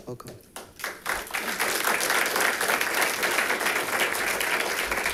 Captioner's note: audience applauding